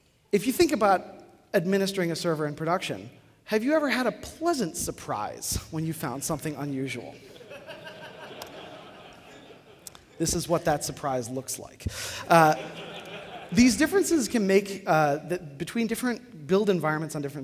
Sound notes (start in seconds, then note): 7.2 laughter; 12.2 laughter